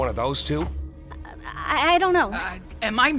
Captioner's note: stammers